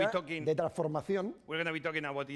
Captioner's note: speaking spanish